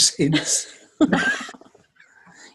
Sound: laughter

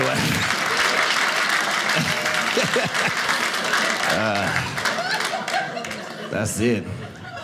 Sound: audience cheering

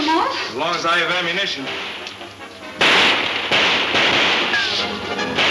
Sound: guns shooting

